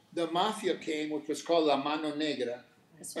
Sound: speaking Spanish

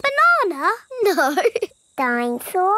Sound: laughing

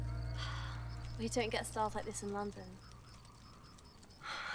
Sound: Emma sighs

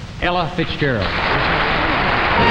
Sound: audience applauding; bright jazzy music

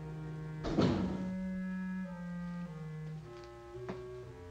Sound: door thudding

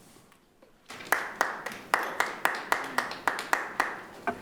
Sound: clapping

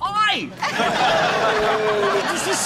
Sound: laughter

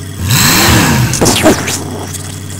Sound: engine revs; explosion

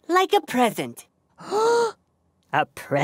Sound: exclaims

